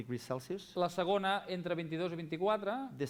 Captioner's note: non-english speech